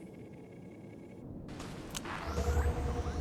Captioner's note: beep